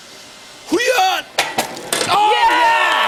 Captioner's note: cheers and applause